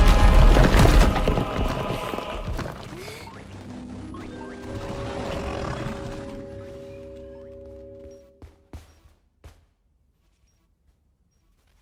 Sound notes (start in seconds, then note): 3.6 curious music plays; 3.9 Kaufmo growls